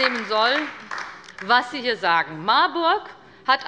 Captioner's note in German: Beifall bei der LINKEN